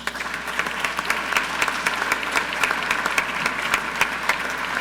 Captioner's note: audience clapping